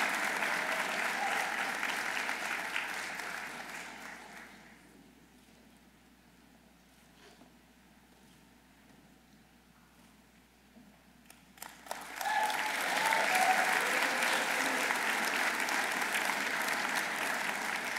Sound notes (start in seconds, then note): 11.6 audience applauding